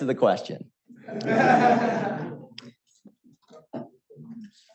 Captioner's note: audience chuckles